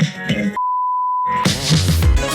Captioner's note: signal beeping; upbeat music